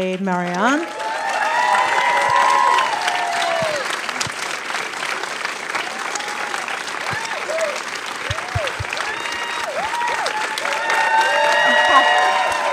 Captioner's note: applause